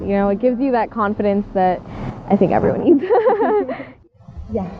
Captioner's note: laugh